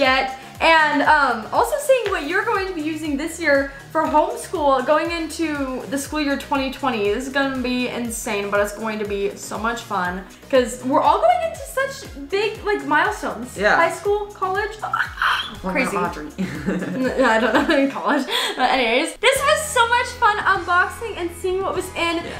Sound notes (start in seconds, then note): 15.1 gasps; 16.3 laughing